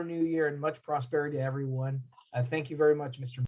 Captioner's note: speaking in language other than english